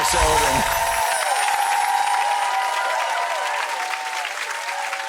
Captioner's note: audience applauds